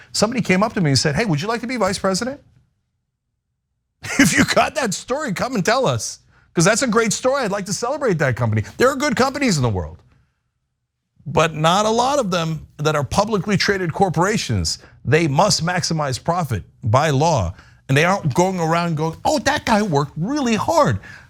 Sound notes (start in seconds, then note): 4.0 laugh